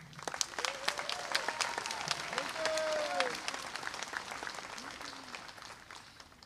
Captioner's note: applause